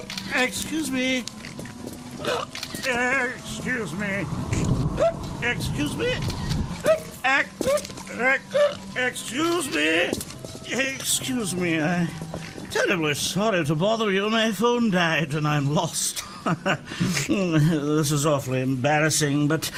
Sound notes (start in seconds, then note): 0.0 hiccuping; 2.2 hiccuping; 5.0 hiccuping; 8.5 hiccuping; 19.0 chucling